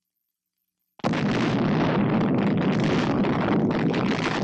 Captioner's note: explosion booming